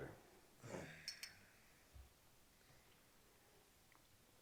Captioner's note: glasses clink